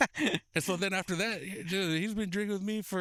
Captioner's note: both laughing